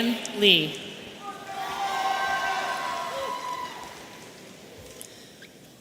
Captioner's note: audience cheering